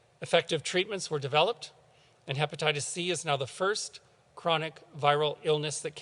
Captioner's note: none